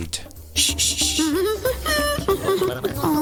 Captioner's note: sprout hums